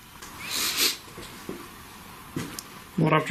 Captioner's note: sniffing